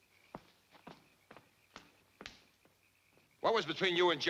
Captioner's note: shoes clacking